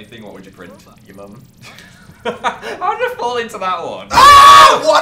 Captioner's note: laughing